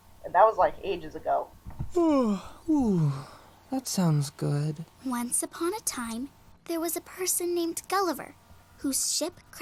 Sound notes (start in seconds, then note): 2.0 yawns